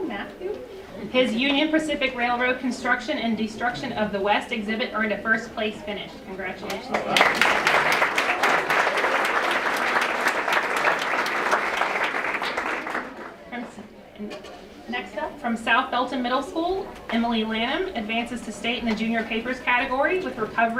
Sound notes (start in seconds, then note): 6.9 applause